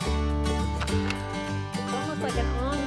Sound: light homespun music; stapler clicks

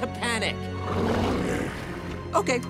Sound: growls

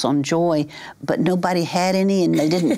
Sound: chuckles

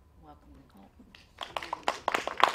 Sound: claps

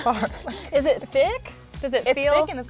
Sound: laughs

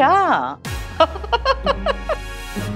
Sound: laughing

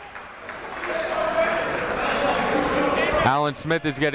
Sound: clapping

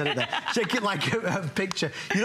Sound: laughter

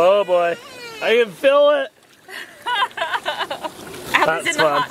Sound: laughs

